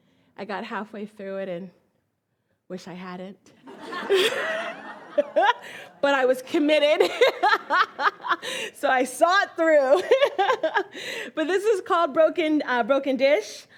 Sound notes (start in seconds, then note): 3.6 all laugh; 10.3 laughs